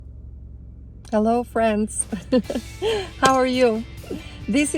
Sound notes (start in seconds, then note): 2.1 laughs; 3.6 hands clapping